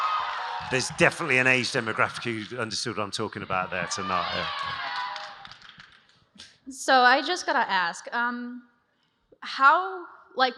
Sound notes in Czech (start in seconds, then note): 6.2 Potlesk